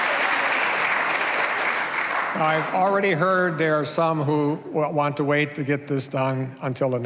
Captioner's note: cheers and applause